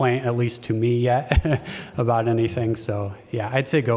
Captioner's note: laughter